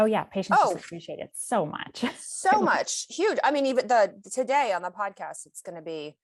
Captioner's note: chuckles